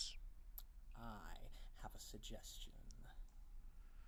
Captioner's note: licks lips